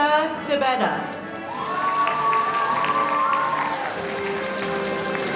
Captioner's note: cheering and applause